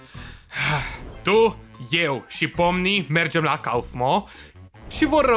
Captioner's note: sighs